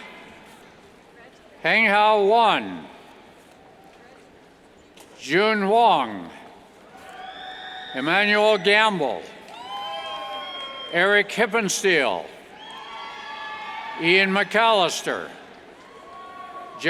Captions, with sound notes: Henghao Wang, Zhuojun Huang, (cheers) Emanuel Gamble, (cheers) Eric Hippensteel, (cheers) Ian McCalister, Jeffrey Cheng,